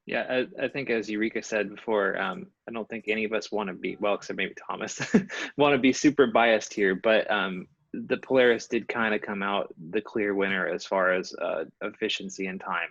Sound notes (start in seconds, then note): 5.0 laughter